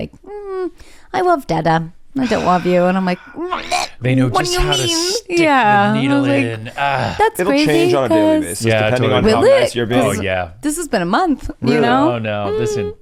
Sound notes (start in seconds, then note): 2.2 gags; 3.1 sighs